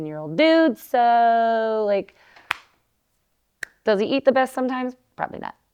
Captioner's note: claps